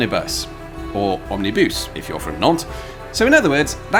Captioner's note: French accent